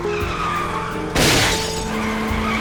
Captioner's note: glass shatters; tires squealing